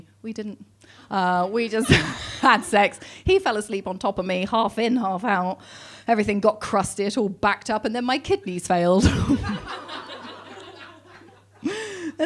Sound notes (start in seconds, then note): 1.7 laughing; 9.0 laughing